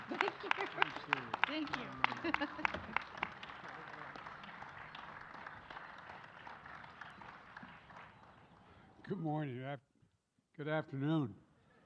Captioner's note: applause